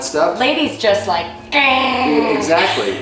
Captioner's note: growling